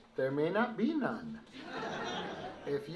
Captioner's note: laughter